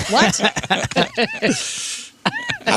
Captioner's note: laughing